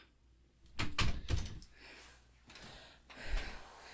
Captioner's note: door clicks shut